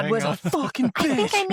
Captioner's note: laughs